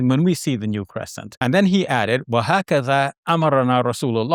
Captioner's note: speaking Arabic